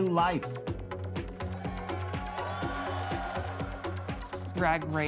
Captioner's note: upbeat music; audience cheering